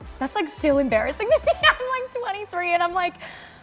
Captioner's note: laughing